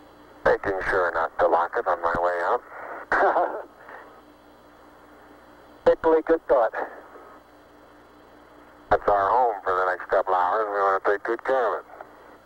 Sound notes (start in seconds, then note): 3.1 laughs